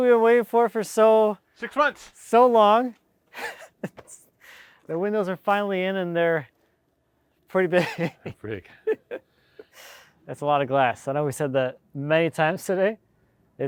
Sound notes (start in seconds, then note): 7.8 chuckling